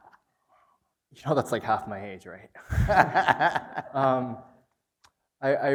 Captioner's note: laughs